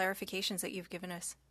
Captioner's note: speaking French